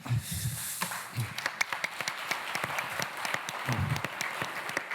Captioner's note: applause